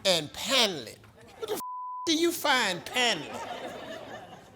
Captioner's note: beep